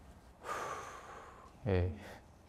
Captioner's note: deep breathing~